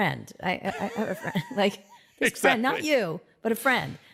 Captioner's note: laughing